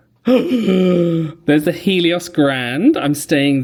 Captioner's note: gasps